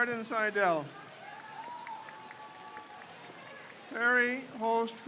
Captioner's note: crowd cheers